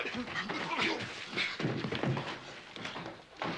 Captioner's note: grunting